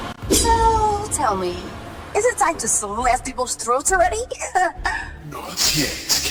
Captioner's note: giggle